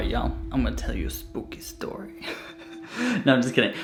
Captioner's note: giggles